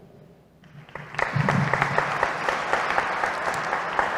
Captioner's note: applause